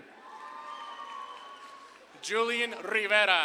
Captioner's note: audience claps and cheers